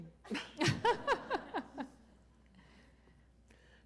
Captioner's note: laughter